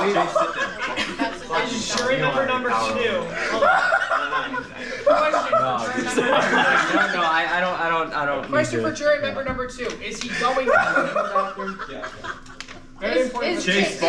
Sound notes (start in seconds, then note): 3.2 never-ending laughter continues